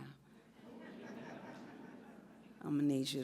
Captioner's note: audience laughs